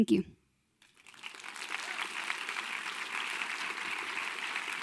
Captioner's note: crowd applauding